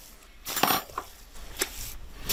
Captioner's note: clanking